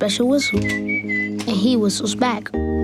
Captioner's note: whistles